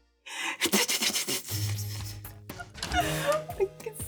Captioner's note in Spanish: Hace ruido con la boca